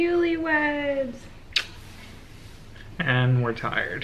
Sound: smooches

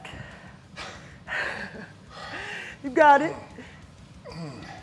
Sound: laugh

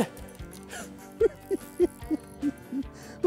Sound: laughin g

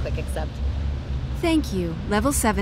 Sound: voiceover

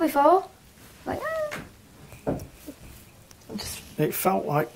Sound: makes whimpering noise

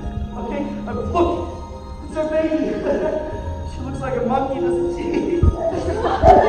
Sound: chuckles

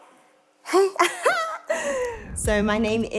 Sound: laughs

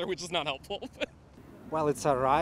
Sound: laughing

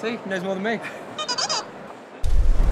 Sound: BB8 talks

